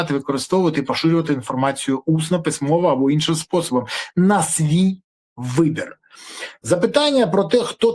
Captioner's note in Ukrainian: сопіння